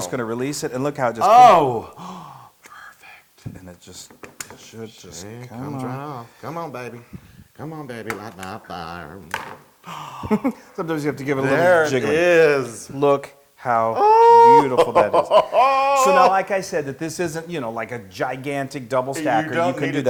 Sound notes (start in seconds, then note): 8.3 laugh; 14.0 laugh